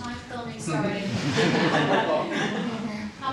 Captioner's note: all laughing